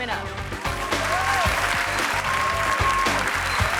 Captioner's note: audience cheering and clapping; upbeat music